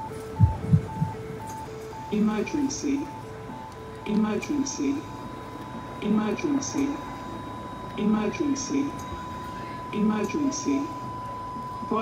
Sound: computer voice

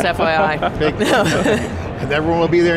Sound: laughing

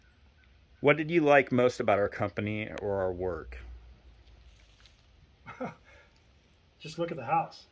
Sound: giggled; giggles

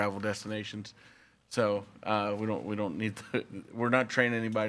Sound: laughs

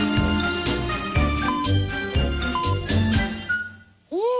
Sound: electronic beeping

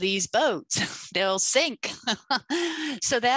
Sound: laughs

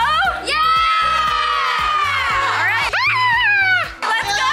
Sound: all shouting yeah

